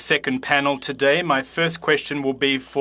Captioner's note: speaking French